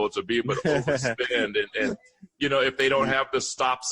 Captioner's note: laughter